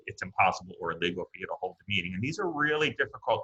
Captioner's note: audio glitches